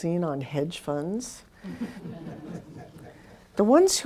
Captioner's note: laughter